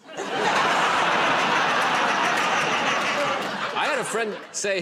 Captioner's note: laughter